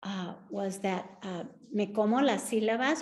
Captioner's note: speaking Spanish